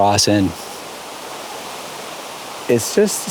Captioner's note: flowing water